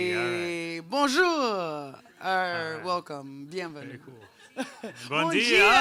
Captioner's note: speaking in foreign language